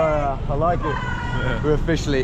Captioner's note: girls laugh